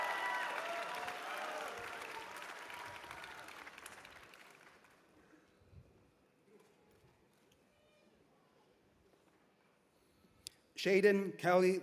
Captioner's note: cheers and applause